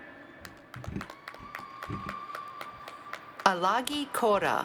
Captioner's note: applause